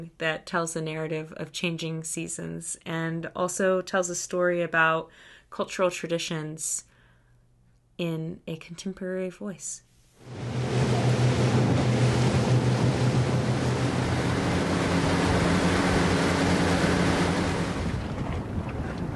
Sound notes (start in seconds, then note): 10.8 wind whooshing